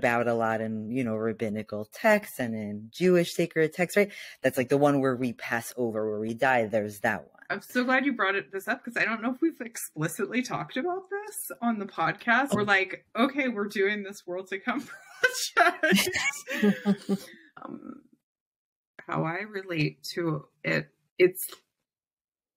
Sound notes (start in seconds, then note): 15.7 laughs